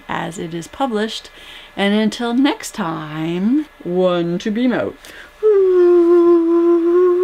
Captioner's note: whooo